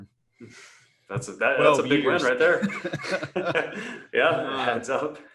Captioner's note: laughs